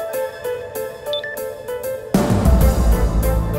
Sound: phone chimes

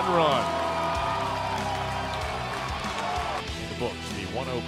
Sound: cheering

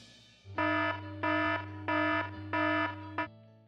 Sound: alarm ringing

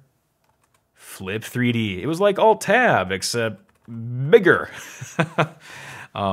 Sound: laughs

